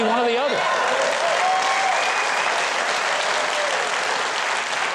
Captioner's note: audience cheers